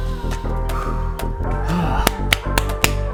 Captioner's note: deep breath